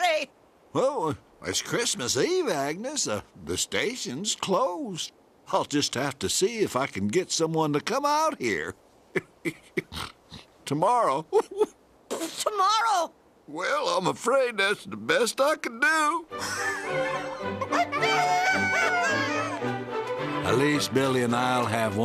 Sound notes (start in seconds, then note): 16.3 laughing; 16.5 crowing